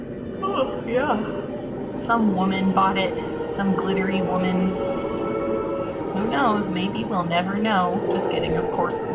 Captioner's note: yawns